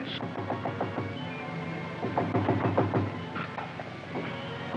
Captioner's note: knocking at door